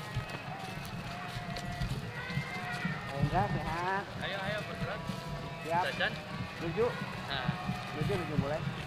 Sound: applause

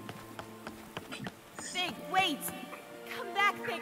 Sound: Fig's footsteps recede

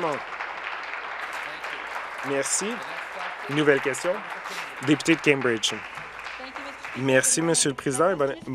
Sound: applause

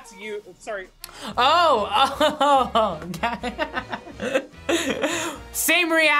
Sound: laughs

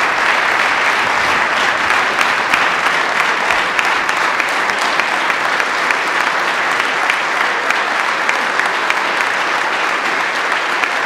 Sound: applause

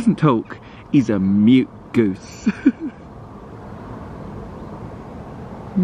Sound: chuckles

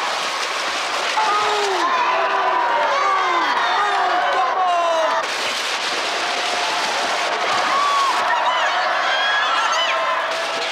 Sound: crowd cheer

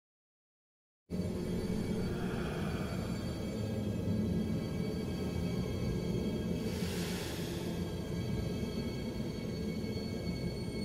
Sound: spooky stretched sound

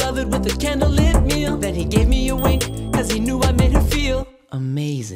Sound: ding!

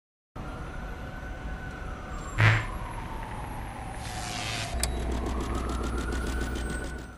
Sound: sirenas, choques eléctricos, ventilador

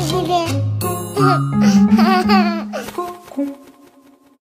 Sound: laughs

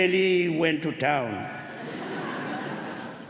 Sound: laughter

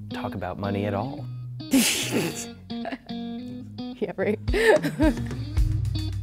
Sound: laughing

